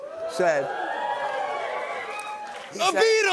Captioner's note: cheers and applause